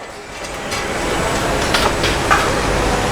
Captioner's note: engine revving